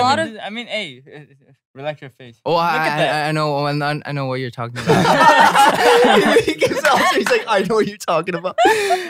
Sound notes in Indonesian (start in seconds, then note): 4.8 tertawa